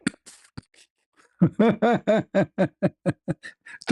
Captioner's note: ketawa